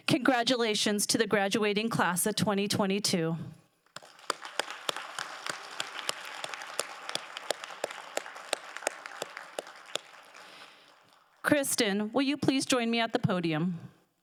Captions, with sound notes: Congratulations to the graduating class of 2022. (crowd applauding) Cristin, will you please join me at the podium?